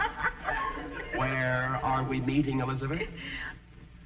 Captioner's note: audience laughing